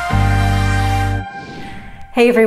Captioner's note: air whooshing